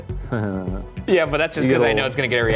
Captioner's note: Shane chuckling